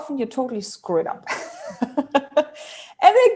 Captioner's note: laughs